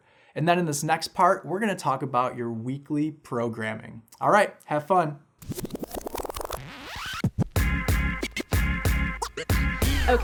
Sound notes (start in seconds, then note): 5.4 digital effects; 6.8 upbeat music